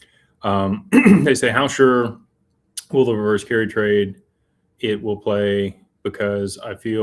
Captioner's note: clears throat